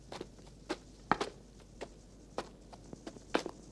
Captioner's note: cricket's chirping